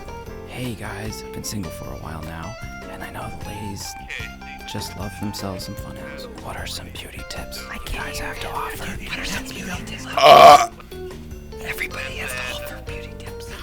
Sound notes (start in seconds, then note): 10.1 belches